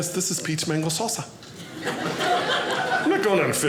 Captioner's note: audience laughing